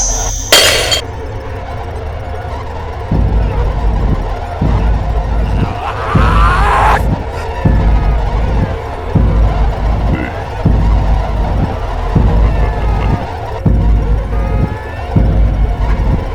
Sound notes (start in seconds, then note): 0.1 smashing breaking glass; 1.1 heavy pulse; 1.1 screams